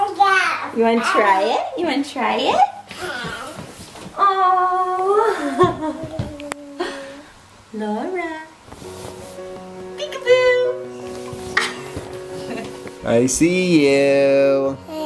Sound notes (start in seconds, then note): 5.0 laughs; 11.1 gentle piano music